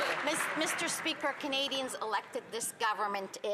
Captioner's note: some Applause